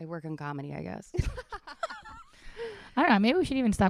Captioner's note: laughing